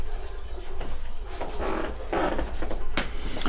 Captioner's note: sound of toilet filling up; stairway creaks